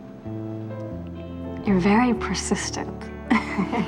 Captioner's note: chuckles